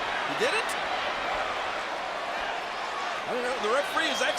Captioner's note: applause